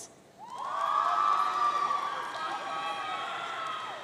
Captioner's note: audience cheering